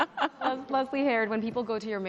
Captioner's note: laughs